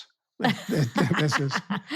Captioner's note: laughs